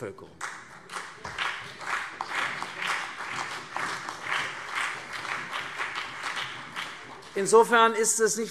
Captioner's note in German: Beifall CDU und BÜNDNIS 90/DIE GRÜNEN